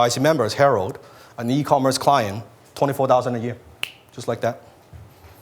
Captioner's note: snaps fingers